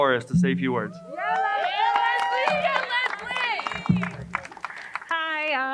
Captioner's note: crowd cheering and applauding